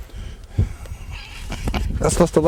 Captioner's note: Rush laughing